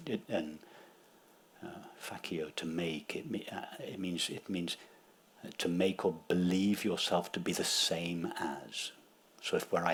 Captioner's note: speaks latin